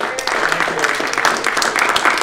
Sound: applause

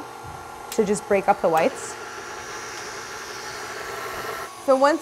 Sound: mixer whirring

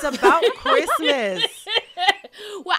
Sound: laughter

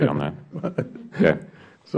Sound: laughter

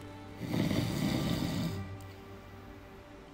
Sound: snoring

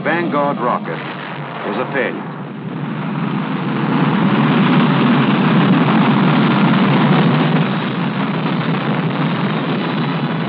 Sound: rocket Explosion

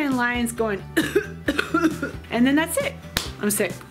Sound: coughing

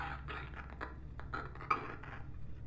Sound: voice breaking

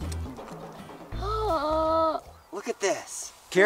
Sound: gasps

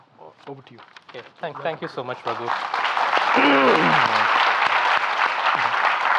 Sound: audience applauding

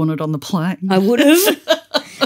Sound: laughter

